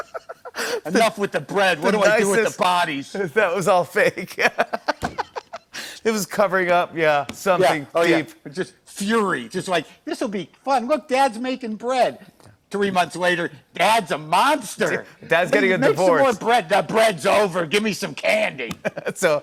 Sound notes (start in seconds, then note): 4.2 laughing